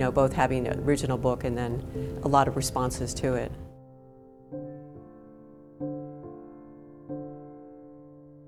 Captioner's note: none